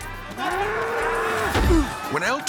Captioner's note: bull grunting